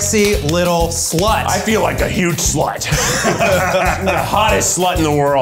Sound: all laughing

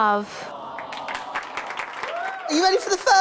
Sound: audience: Aww

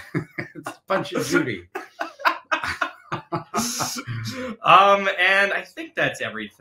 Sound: laughing

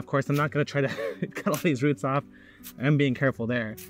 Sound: chuckles

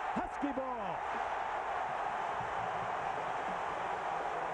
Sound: cheering, applause

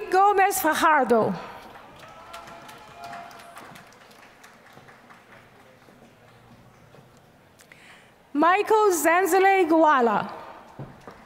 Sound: applause; applause

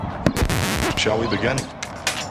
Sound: record scratching

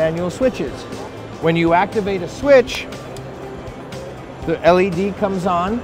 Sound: switch clicks

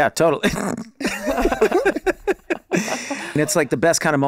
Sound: all laughing

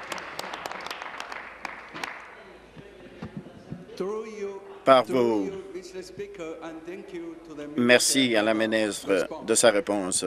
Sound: applause

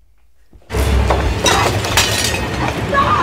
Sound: glass breaking; Chandler screaming

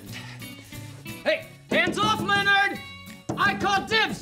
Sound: tapping

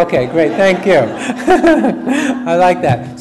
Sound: audience laughs

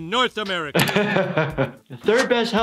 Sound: chuckles

